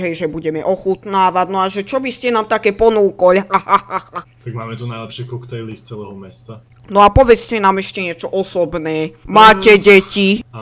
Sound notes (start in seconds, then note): 3.4 laughter